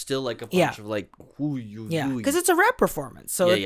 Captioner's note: babbling